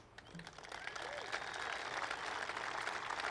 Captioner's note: applause